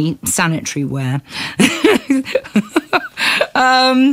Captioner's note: laughs